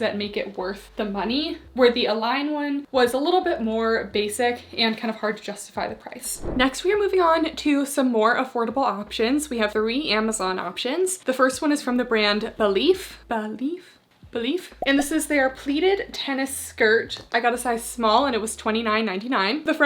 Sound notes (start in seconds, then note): 6.3 screen whooshing